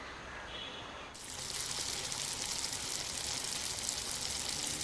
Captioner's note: deep frying